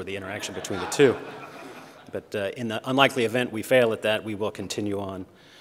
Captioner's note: laughter